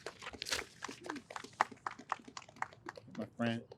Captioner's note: audience applauds